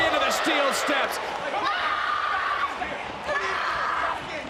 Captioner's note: Rhea screams